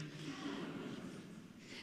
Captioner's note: audience murmuring